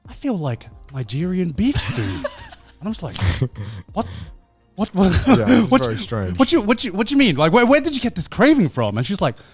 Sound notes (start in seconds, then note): 4.8 laughs